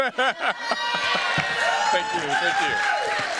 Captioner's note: laughter; cheers, applause